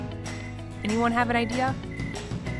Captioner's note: crickets chirping